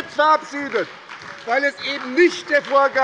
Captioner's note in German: Beifall bei der SPD